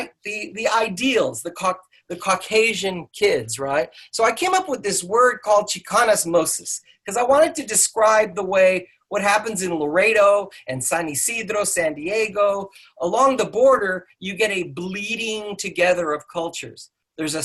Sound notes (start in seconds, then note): none